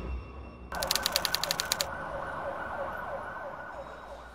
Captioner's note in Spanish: Sirenas a la distancia